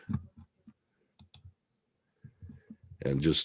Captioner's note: mouse clicking